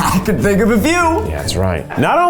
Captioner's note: laughs